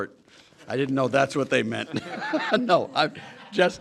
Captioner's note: laughter